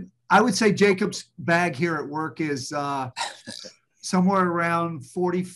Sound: laughs

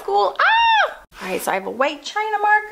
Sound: screams

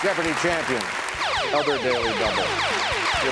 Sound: electronic trilling

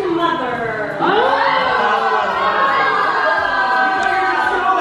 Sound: cheering

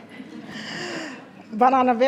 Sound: attendees chuckling

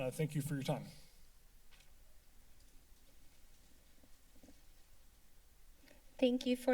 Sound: silence

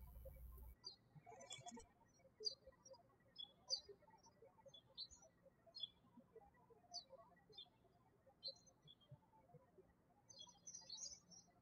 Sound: birds chirping

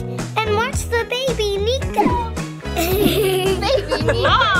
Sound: laughs

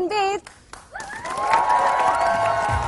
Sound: cheering

